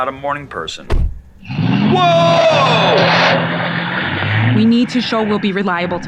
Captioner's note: tires screeching